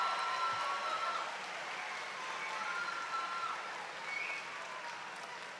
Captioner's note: cheers and applause